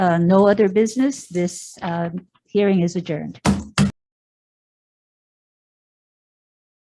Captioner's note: hand slaps table twice